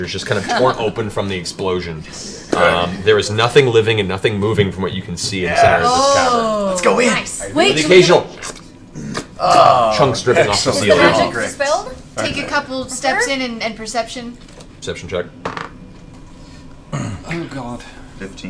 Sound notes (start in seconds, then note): 8.9 dripping sounds